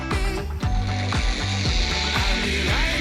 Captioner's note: zip line whooshes